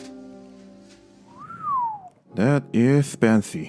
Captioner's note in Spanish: silba fascinado